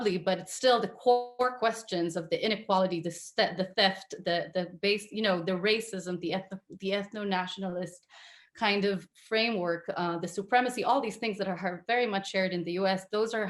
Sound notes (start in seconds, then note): 6.1 stutters